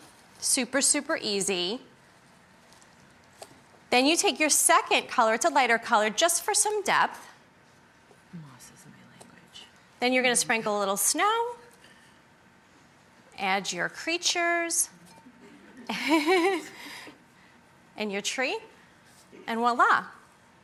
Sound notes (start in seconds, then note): 15.4 laughs